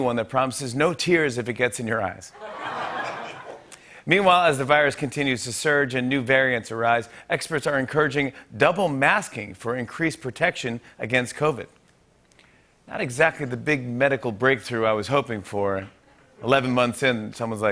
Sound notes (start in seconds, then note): 2.7 light laughter